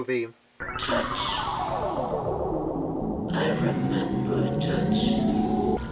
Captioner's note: distorted, almost robotic